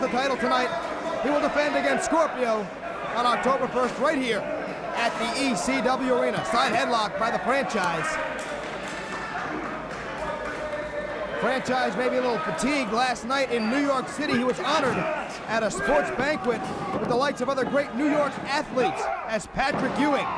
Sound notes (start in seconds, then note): 9.3 crowd chatter